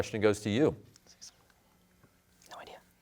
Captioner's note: whispers